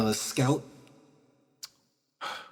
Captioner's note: sigh